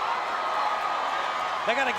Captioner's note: crowd cheering